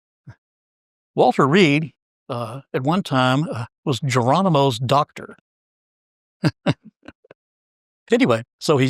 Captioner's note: laugh